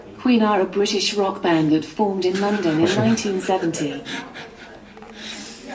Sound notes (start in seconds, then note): 2.8 man laughing